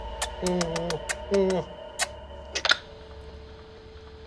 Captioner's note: lips smacking